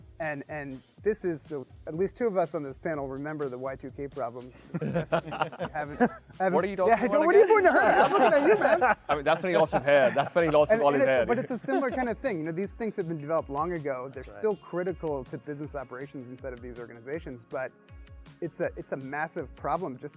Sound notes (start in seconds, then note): 4.6 panelists laughing; 6.9 laughs